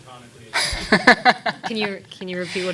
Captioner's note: laughing